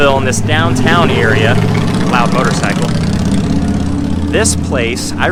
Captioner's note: motorcycle engine roaring